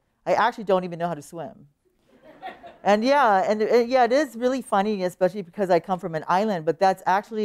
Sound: laughter

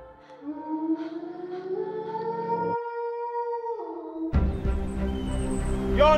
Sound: howls

